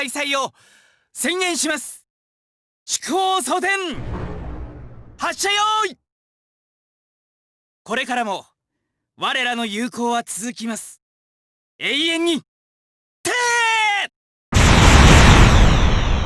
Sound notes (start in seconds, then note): 6.8 silence